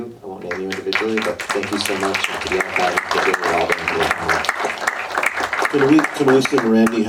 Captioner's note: audience applause